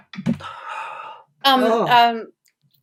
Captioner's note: sighs